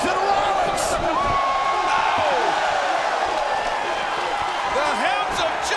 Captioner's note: audience cheers